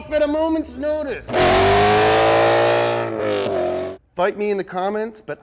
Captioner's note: car engine revs